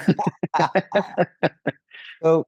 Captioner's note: both laughing